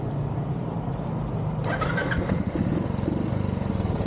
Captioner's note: engine starting